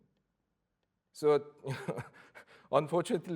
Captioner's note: laughs